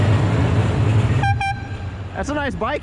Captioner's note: airhorn x2